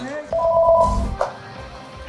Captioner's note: phone ringtone